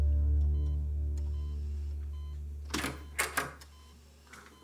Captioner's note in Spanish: sonido de telemetría; ruido en la puerta al entrar